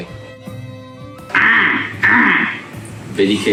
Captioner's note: squawks